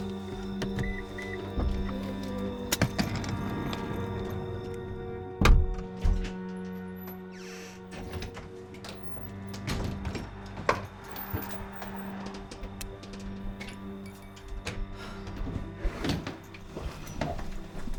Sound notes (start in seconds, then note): 0.0 car beeps; 5.3 door clicks; 6.8 door creaks; 13.1 switch clicks; 15.2 Rachel sighs